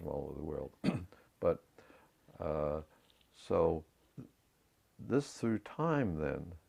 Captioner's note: cough